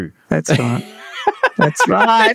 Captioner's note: laughing